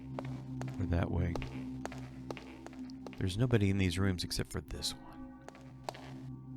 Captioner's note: whispers